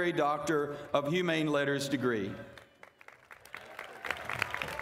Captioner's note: applause